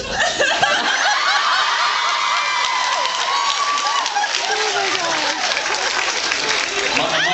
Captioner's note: laughs and screams